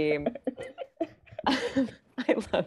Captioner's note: all laughing